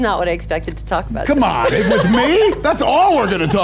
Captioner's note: laughs